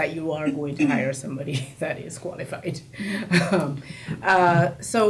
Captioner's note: laughs